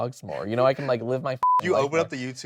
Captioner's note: beep